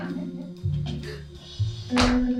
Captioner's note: gasp